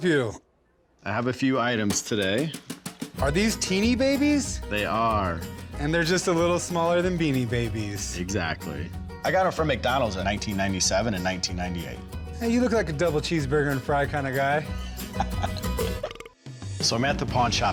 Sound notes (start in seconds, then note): 14.4 burp sound; 14.7 laughs